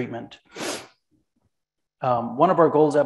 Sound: sniffles

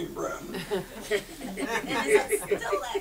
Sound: audience laughs

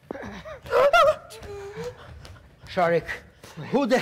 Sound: professor softly gasps

